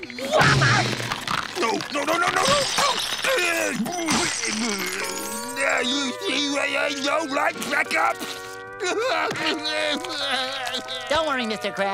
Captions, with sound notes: Yah! No! No, no, no, no, no! No! [groaning] Now you see why I don't like checkups?! [crying] Don't worry, Mr. Krabs.